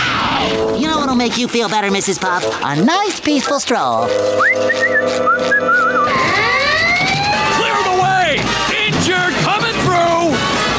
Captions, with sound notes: Y'know what will make you feel better, Mrs. Puff? A nice peaceful stroll! [whistling] [siren blaring] Clear the way! Injured coming through!